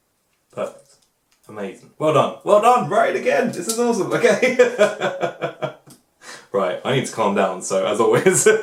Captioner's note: laughs